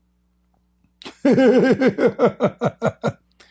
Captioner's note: Ketawa